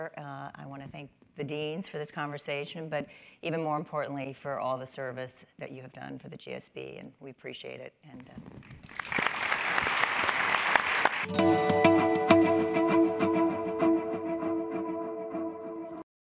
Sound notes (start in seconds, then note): 8.7 applause